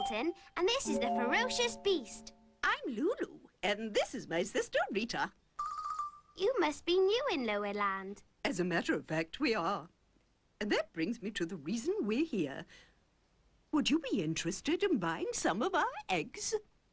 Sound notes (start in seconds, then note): none